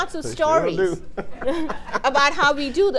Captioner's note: laughs